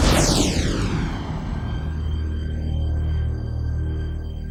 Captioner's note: thunder crashing; somber synthesizer and string music